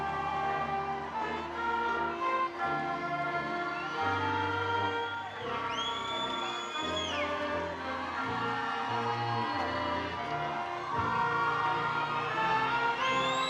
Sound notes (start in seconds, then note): 2.1 triumphant music; 3.3 attendees cheering